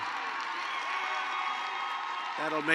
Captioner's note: applause